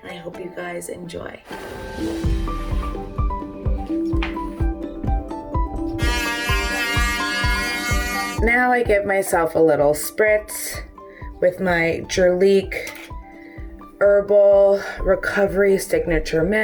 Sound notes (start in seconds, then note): 1.5 upbeat music; 5.9 electric toothbrush buzzing